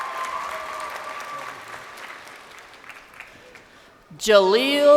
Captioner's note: crowd cheering